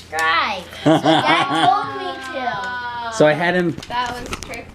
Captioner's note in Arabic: يضحك